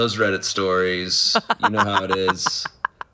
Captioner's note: laughs